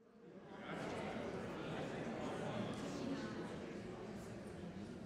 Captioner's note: people speaking softly